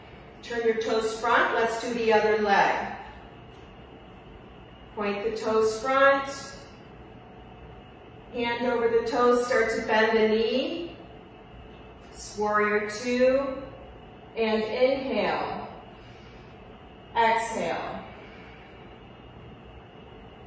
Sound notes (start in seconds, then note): 15.9 inhales; 18.5 exhales